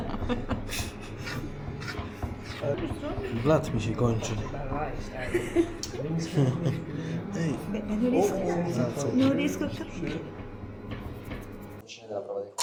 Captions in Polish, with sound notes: [śmiech] Blat mi się kończy. [śmiech] blisko